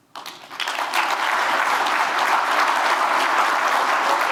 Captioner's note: audience applauding